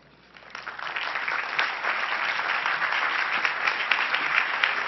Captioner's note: crowd applauding